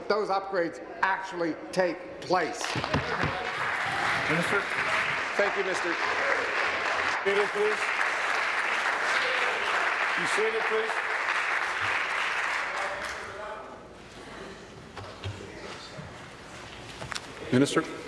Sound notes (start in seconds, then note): 5.7 applause; 13.9 applause